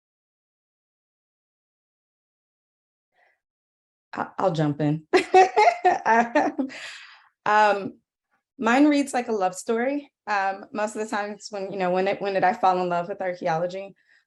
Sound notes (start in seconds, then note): 5.1 laughs, everyone else muted